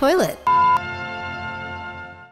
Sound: tone beeps

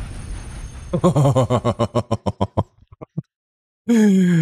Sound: guilty Laughter

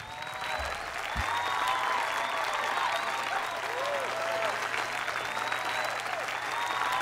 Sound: audience applause

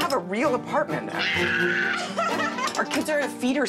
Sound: screams and laughs

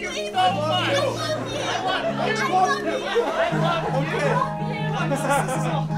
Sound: long exchange of "I love you's"

